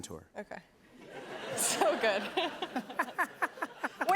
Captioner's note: laughs